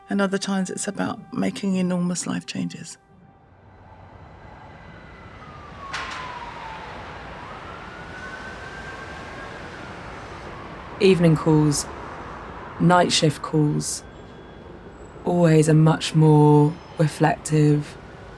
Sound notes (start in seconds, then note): 3.1 siren blaring; 3.2 car engine rumbling